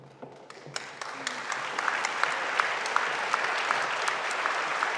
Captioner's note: audience applauding